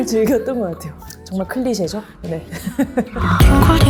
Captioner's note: laugh